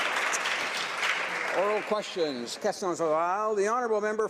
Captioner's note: some Applause